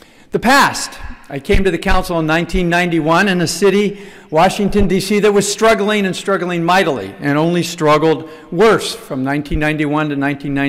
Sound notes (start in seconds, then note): none